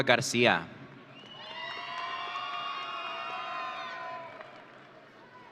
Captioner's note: audience cheering